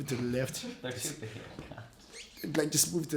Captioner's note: laughing